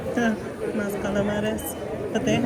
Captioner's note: speaking in foreign language